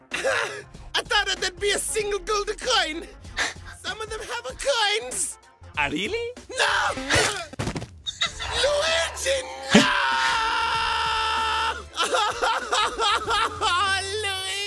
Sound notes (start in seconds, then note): 7.5 thudding sound; 11.1 Mario sobbing